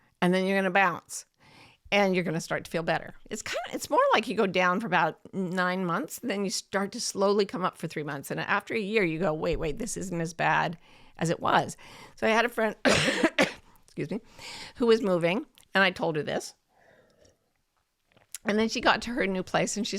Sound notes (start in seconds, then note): 12.8 coughs